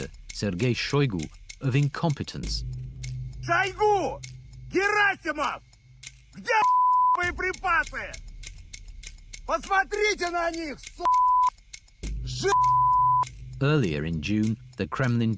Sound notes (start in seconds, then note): 5.1 speaks in Russian; 6.6 beep; 11.0 beeps